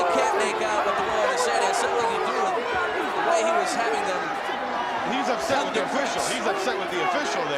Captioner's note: speaks faintly